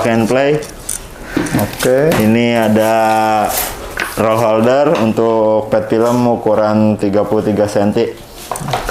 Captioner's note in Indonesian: suara styrofoam